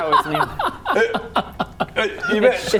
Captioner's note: blunt laughter